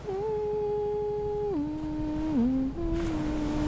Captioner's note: gentle humming